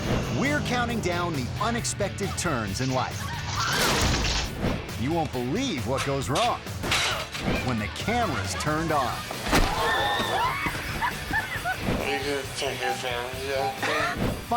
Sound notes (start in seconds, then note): 0.0 bike revving; 3.6 bike crashing; 3.7 rider screaming; 6.8 lively music; 6.8 ladder crashing; 9.5 runner thudding; 9.6 spectators screaming; 10.3 runner laughing